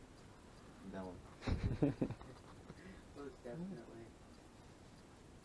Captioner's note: laughs